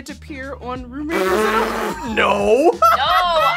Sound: laughs

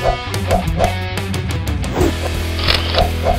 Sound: sound---whoosh! whoop!; sound--Camera snap shot; sound -- camera snap shot. Email alert notification sound

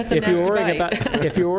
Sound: laughter

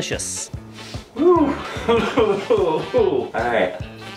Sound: sniffs

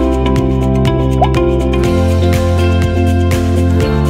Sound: blooping

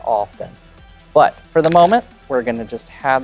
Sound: cards riffling

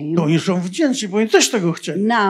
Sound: foreign language

